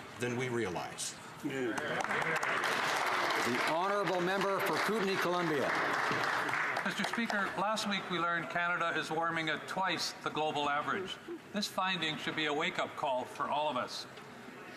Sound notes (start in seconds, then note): 5.6 some Applause